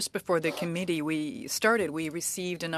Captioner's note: speaking French